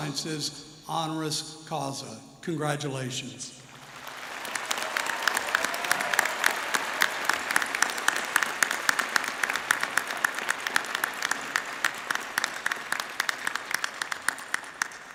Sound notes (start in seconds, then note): 6.1 applause